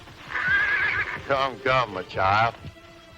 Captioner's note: horse neighing